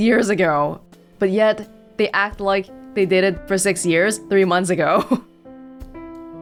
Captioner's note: chuckles